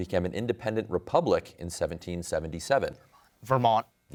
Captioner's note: whispers